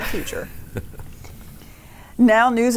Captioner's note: chuckles